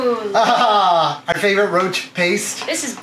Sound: laughs

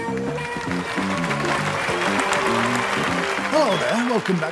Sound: audience cheers and applauds

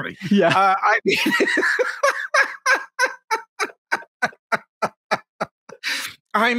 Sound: laughing

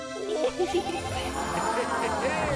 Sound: crowd

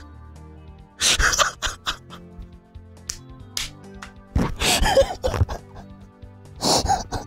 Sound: cry-laughing continues

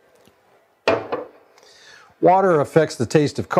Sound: clunk

